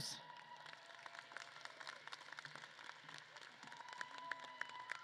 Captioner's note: audience claps and cheers